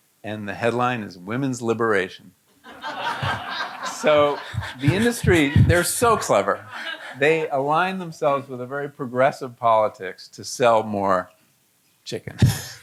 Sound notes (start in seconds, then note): 2.6 audience laughing